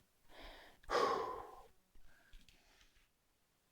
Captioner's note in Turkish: iç çeker